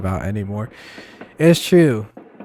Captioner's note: sigh